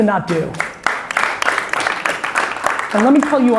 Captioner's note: audience applauds